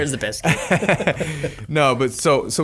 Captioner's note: laughing